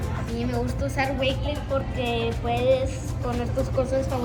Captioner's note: in Spanish